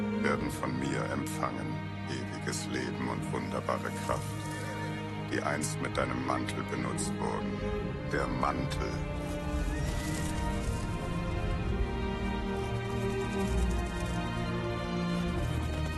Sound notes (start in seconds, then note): 4.4 horse neighs; 9.5 horse gallops and whoosh